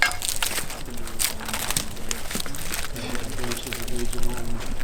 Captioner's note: tree cracking